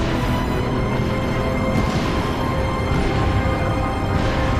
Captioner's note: lasers explode